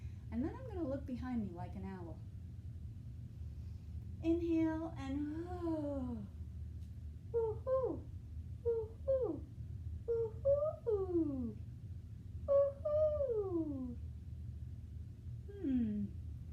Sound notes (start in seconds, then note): 3.6 inhale; 5.9 exhales